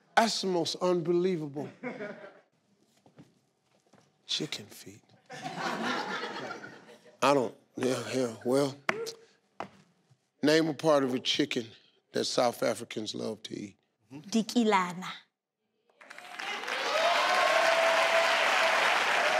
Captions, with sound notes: That's the most believable. Chicken feet. (crowd laughs) I don't, yeah hell well. Name a part of a chicken that South Africans love to eat. - (speaks in foreign language) (crowd cheers)